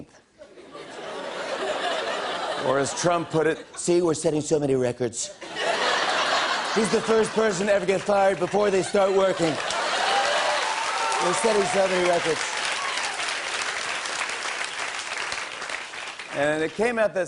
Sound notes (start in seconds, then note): 0.4 laughter; 5.4 laughter; 9.2 applause